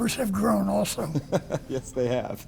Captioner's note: laughter